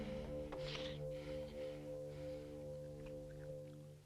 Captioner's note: Hundra chuckles